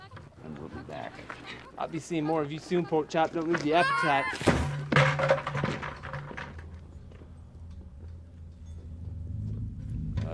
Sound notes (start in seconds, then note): 0.0 fowls chattering; 3.7 Otis squeals; 4.0 bucket thuds; 6.8 tense ominous music